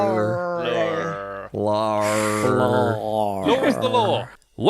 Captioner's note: gargling noises; snort laughs